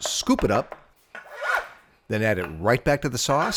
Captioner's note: bench scraper scrapes